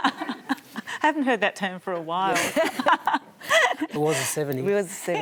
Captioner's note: laughs